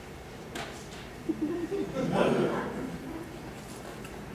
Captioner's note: laughter